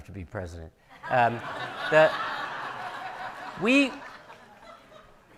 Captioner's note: audience laughing